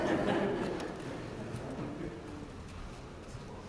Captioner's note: laugh